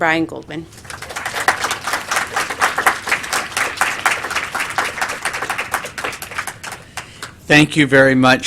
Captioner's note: applause